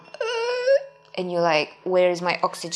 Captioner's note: groaning